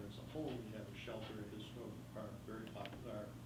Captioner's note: faintly speaking